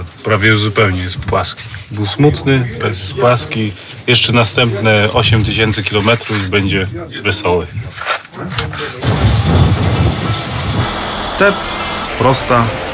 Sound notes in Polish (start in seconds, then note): 8.8 dźwięk jadącego samochodu